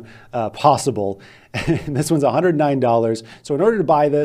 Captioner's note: laughs